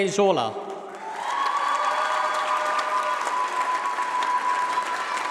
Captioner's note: applause